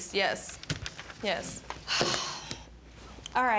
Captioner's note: sighs